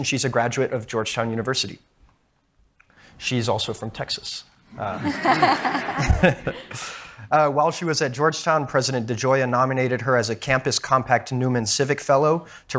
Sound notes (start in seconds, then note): 4.7 crowd laughing